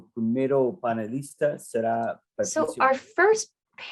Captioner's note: speaks in Spanish